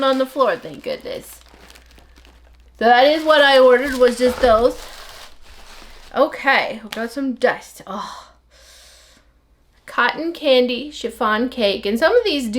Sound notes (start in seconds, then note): 7.4 crinkle paper